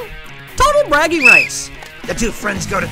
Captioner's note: whistle